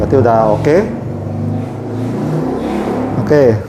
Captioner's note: motorcycle engine noise